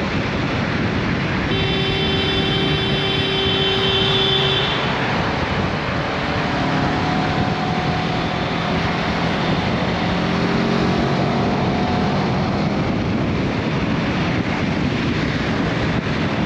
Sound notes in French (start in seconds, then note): 1.3 klaxon